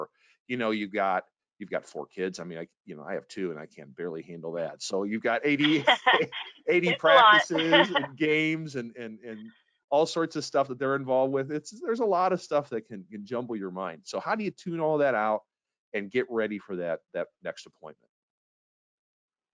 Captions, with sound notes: or you've got four kids. I mean, I have two and I can barely handle that. So you've got 80, (both laughing) 80 practices and games and all sorts of stuff that they're involved with. It's, there's a lot of stuff that can jumble your mind. So how do you tune all that out and get ready for that next deployment?